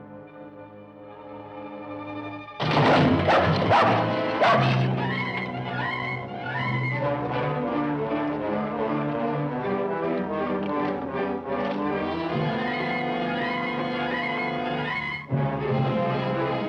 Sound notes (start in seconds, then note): 2.6 crashing; 2.7 dog barking